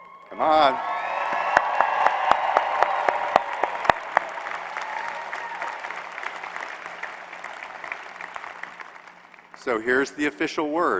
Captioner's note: applause